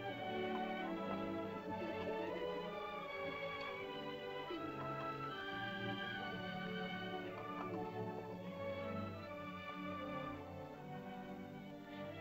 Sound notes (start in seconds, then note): 1.6 children's voices; 1.6 soft music